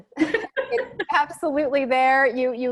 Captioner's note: laughing